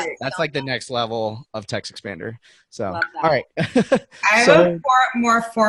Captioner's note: laughing